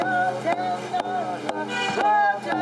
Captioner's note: chanting